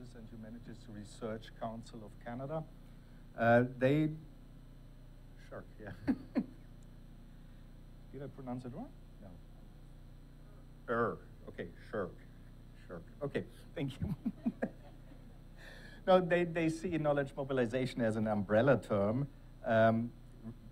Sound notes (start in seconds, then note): 7.2 laughs; 13.9 attendees laughing; 14.0 laughing